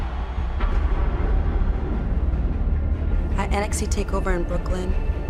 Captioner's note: crowd cheering